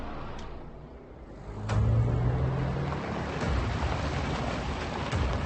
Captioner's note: cars approaching